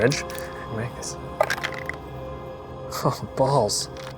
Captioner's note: dice rattling